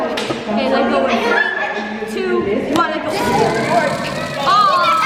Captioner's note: kids chatting and laughing